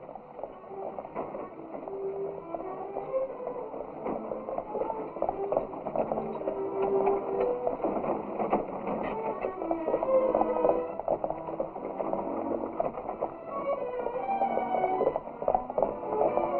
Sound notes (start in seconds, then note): 5.5 horse galloping; 8.1 solemn music